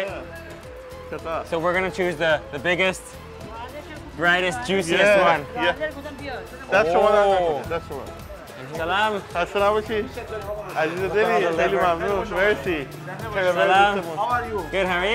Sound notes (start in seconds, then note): 9.7 men speaking foreign language